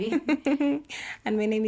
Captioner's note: laughter